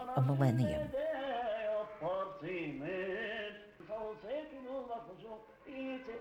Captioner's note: chanting in foreign language